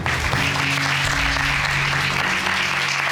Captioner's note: audience applauding